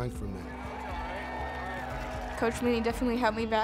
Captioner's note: cheering